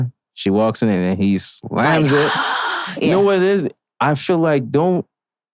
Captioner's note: gasps